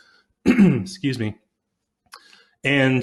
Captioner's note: clears throat